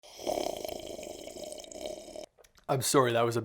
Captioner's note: slurping